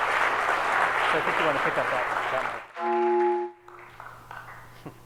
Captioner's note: audience applauds